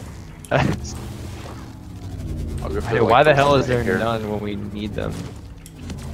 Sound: laughs

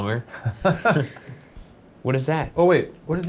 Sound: laughing

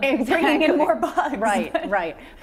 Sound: laughter

